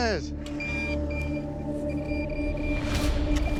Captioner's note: metal detector beeping